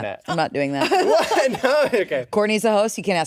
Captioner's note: laughs